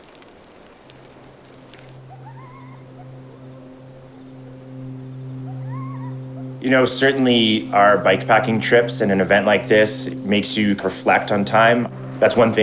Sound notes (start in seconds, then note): 0.9 crickets chirping; 1.6 coyote yipping